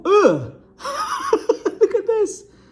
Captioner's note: laughing